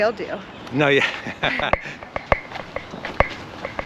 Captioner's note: laughs